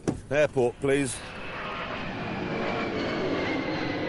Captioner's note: engine revs